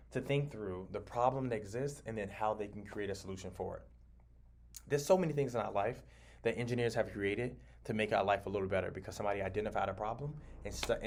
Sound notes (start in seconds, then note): none